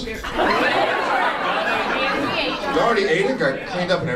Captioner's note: audience cacophony